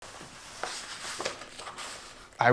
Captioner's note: pages turning